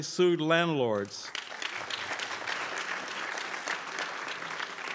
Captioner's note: crowd applauds